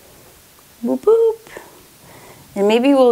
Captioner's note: exclaims gently